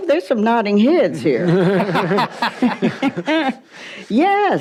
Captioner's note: audience laughs